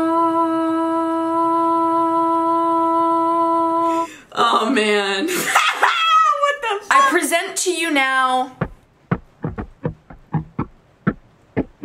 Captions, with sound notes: Oh man. (laughs) What the fuck? I present to you now... (upbeat pop music)